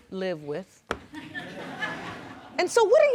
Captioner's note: audience chuckling